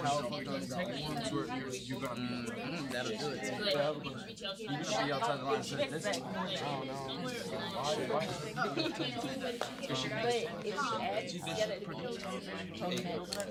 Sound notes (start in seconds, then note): 0.0 students murmur